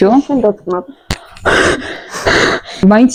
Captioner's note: deep breath